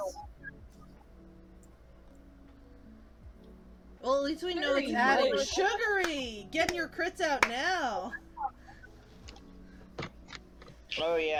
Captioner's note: claps